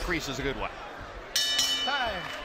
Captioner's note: bell dinging